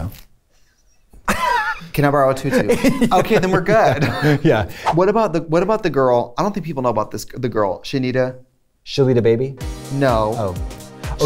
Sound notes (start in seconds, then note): 2.4 laughter